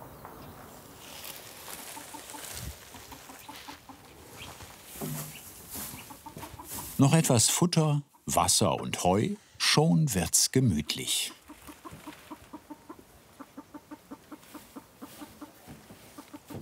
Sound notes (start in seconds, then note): 1.6 quiet cackling